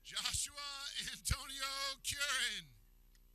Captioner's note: laughing